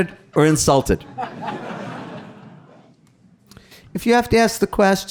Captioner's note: audience laughing